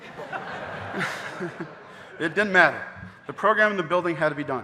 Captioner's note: chuckles; audience laughing